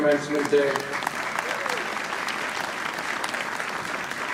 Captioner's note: audience applauding